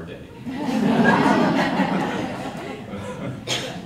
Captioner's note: audience laughter